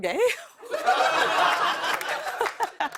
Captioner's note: laughter